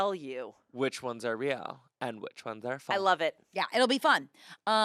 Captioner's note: none